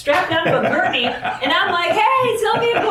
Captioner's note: laughing